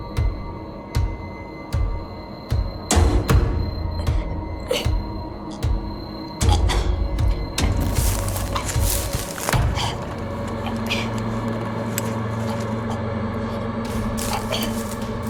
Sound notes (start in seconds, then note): 5.7 Shayna choking